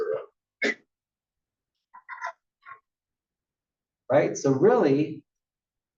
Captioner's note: cough